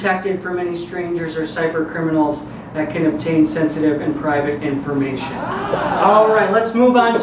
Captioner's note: audience ahh's